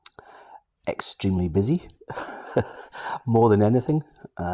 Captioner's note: laughs